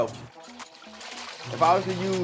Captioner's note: liquid splashing